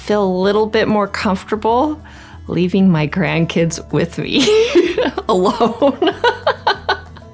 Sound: laughs

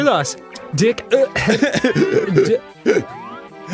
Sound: gasping for Air

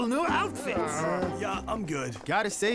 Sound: groaning

